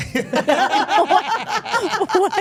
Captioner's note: everyone laughing